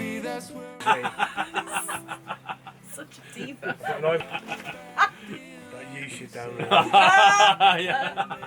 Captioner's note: laughter